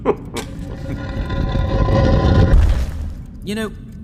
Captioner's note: both chuckle; dragging and thumping